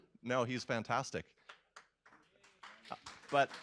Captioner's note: applause